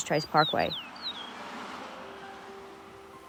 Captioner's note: bird songs